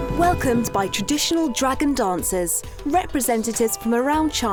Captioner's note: voiceover